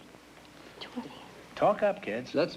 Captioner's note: whispering